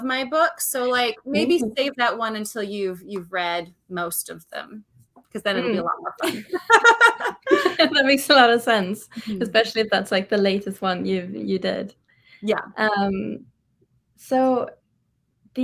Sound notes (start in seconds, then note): 5.6 laughs